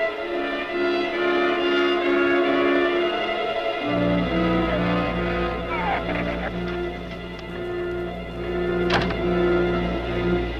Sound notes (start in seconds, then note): 4.2 shrew chatters; 8.5 door slams; 10.4 muffled wind howls; 10.4 suspenseful music continues